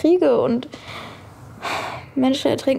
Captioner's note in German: Seufzen